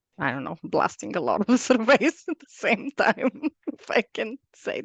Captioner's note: laughs